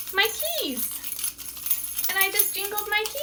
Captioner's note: keys jangling